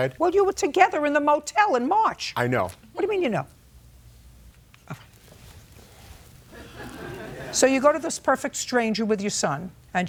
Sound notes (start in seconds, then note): 4.9 audience laughs